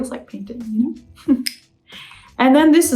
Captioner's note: laughs